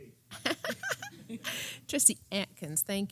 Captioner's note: laugh